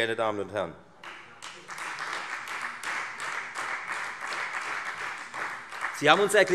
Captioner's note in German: Beifall Freie Demokraten